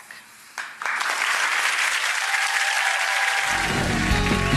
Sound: audience cheering

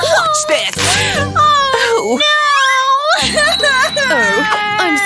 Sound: making irritated sounds

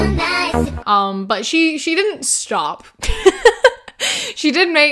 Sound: laughs

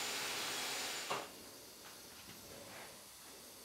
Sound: soft whirring in the background

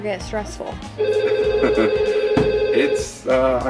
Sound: telephone ringing

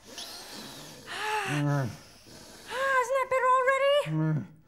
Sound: deep breathing

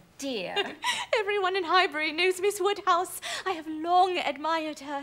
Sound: laughs

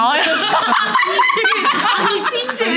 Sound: laughing

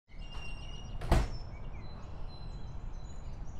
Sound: door closes

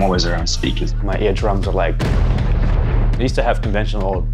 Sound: explosion

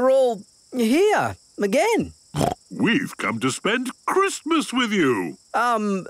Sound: snorting

